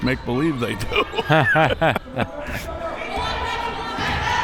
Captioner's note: both laughs